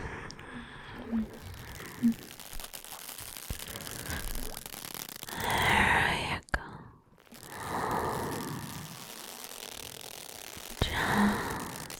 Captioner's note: soothing